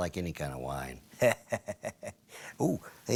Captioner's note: laughs